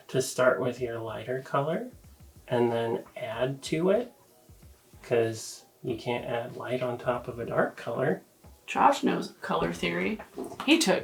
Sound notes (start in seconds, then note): none